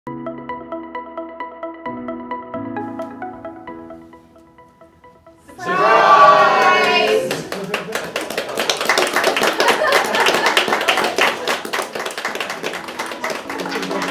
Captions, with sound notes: (upbeat music) All - Surprise! (clapping)